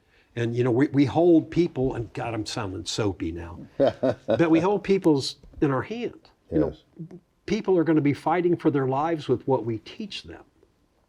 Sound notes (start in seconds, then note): 3.6 laughs